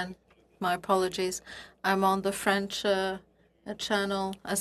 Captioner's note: speaking French